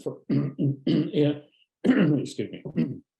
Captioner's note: clearing his throat